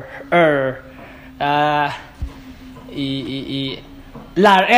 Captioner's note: stutters